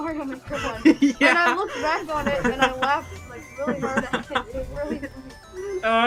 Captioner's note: laughing